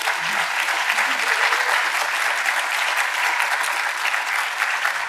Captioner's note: audience applauding